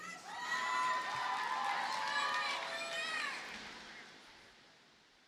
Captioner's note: audience cheers and applauds